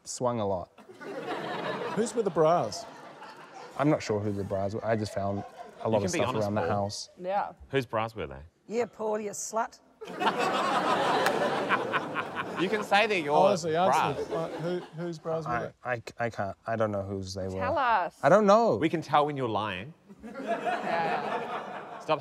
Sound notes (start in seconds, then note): 0.8 laughter; 10.0 laughter; 20.1 laughter